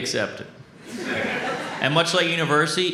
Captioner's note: audience laughs